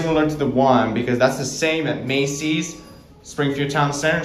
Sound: bell dings to 2 / two

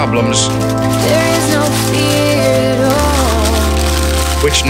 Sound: newspaper rustles; teacups clink

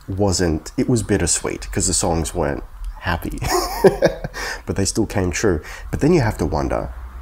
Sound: heh heh heh

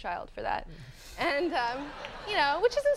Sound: audience laughing

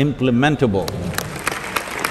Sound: applause

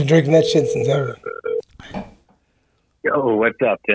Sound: phone rings

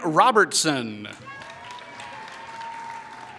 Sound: applause

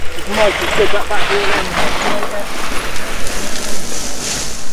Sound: dirt scraping

